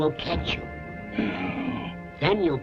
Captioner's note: grumbles